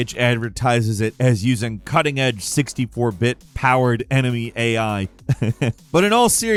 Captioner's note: chuckles